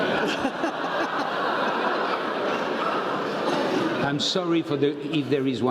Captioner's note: laugh